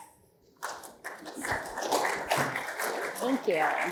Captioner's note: applause